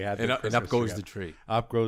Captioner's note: laughs